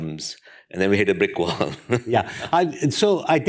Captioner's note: laughs